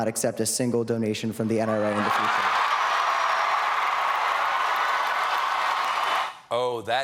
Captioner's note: cheers and applause